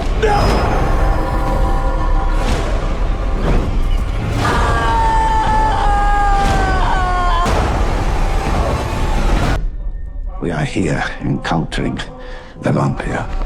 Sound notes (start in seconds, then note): 4.4 screams